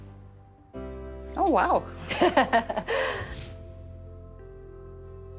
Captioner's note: light music; laughs